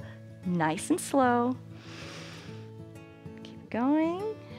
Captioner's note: inhales